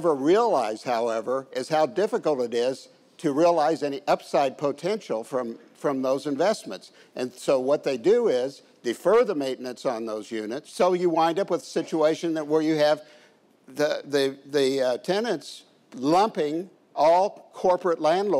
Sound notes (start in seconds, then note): none